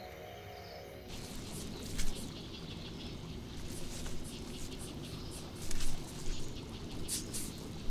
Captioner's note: water gurgles from the stream